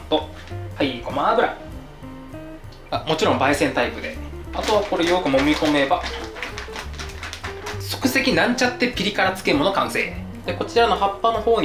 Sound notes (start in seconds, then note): 8.9 applause